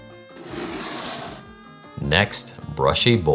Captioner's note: bowl sliding